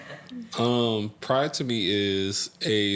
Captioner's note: laughter